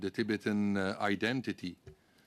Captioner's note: speaking French